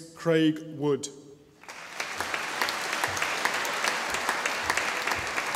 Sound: audience applauding

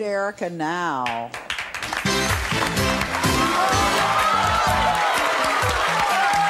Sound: applause; upbeat music

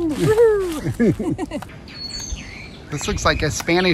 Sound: both laughing

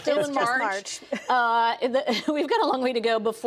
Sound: laughter

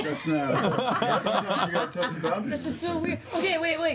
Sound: laughter

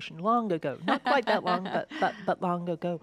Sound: laughs

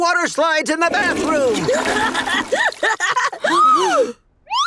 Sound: laughing, gasping

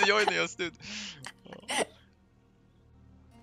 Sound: haha

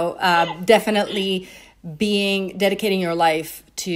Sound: chuckling

